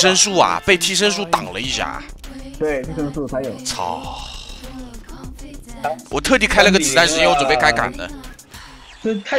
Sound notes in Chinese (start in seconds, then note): 4.0 泣不成声